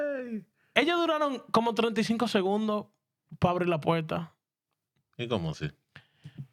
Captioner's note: speaking In Spanish